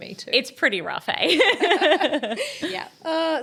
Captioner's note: group laughing